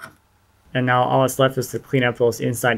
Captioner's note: none